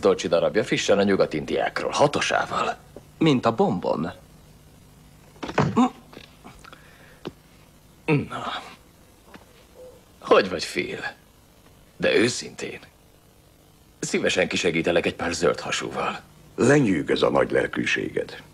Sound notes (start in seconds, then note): 5.4 thuds; 5.4 moan